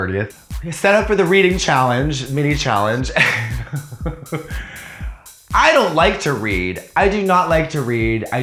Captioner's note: laughter